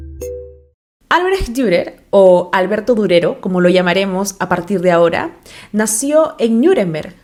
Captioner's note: spanish